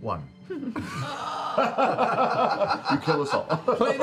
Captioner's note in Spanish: risas